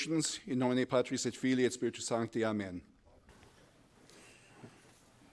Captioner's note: speaking in foreign language